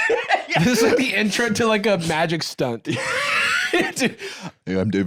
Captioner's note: laughing; laughs